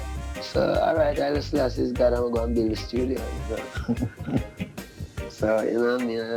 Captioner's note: laughs